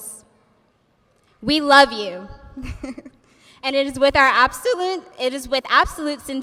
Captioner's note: laughs